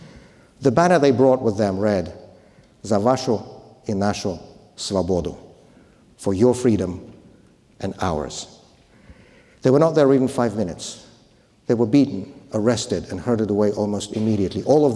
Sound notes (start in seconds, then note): 3.0 speaker speaking foreign language